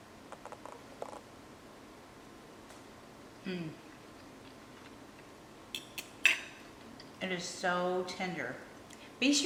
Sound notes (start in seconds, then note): 3.4 hums; 6.2 fork clinks